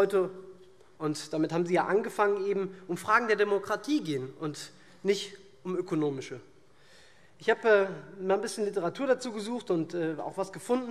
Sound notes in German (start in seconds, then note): none